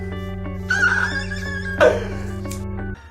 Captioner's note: hell like noise